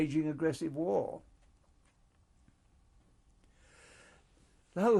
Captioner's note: pauses for 3 seconds